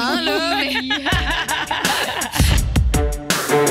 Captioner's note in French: rires